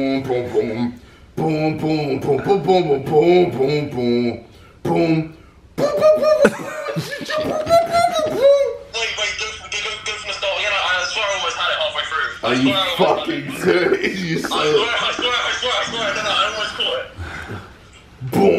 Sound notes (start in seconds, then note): 10.3 laughing; 16.4 laughs